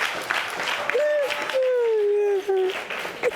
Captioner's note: sobbing